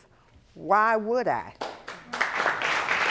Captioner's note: audience applauding